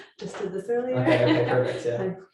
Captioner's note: laughs